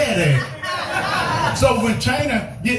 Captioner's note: laugh